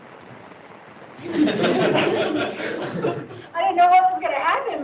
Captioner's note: laughing